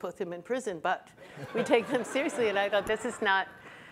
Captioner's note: audience laughs